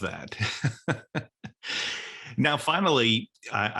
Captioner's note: laughs